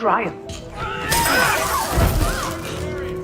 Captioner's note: glass breaks